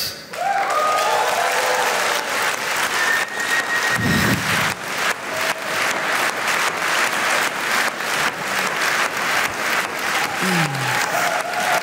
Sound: applause

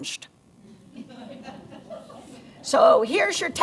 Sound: laughter

